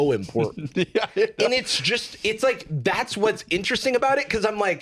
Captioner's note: laughing